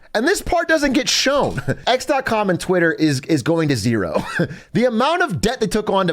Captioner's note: laughs